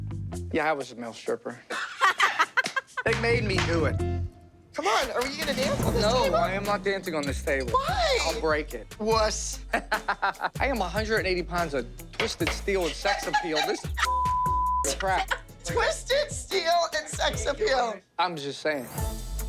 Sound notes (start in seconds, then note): 1.7 both laughing; 9.4 he laughs; 14.8 laughing